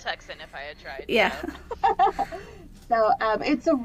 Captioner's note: laughter